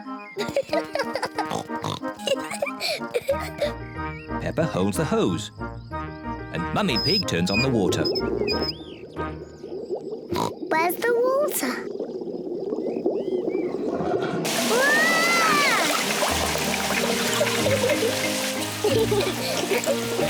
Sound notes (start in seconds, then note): 0.2 giggles excitedly; 8.1 water glugging; 10.3 oinks; 14.4 yelling; 17.1 both giggle